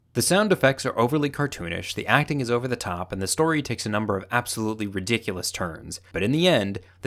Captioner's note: none